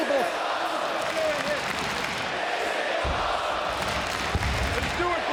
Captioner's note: crowd cheers and chants